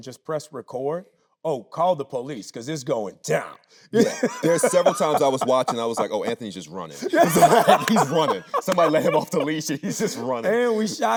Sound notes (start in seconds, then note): 3.9 Anthony laughing; 6.9 laughing